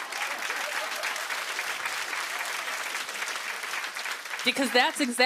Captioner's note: laughter; applause